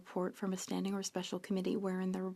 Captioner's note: speaking French